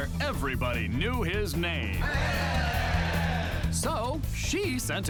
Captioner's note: cheering